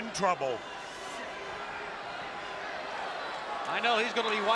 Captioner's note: spectators cheering